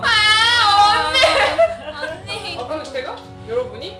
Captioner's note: crying